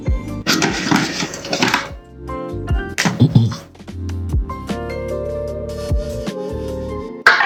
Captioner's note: shuffling equipment